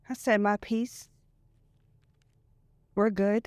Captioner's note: none